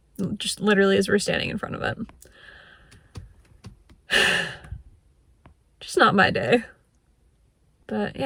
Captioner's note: sighs